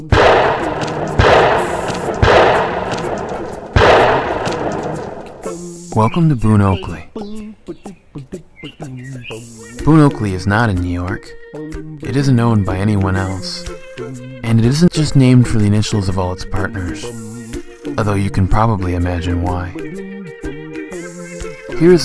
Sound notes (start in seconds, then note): 0.0 sound of gunshot; 8.0 sound of birds chirping